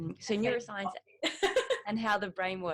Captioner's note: all laughs